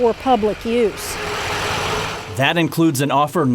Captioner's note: truck drives